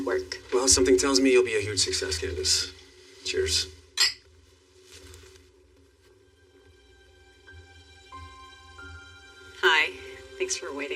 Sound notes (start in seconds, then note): 4.0 glasses clinknk; 5.7 soft mumusic